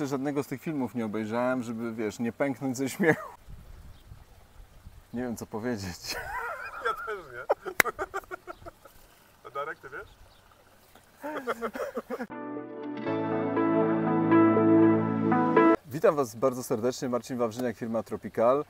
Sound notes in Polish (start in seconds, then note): 7.3 śmiech